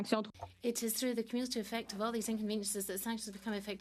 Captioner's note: speaking French